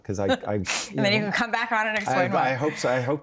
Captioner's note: laughs